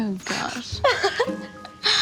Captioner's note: chuckles